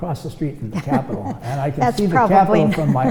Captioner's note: laughs